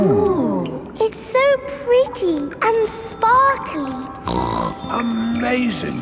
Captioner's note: snorts